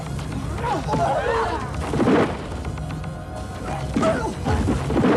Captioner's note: dramatic music; fighters moaning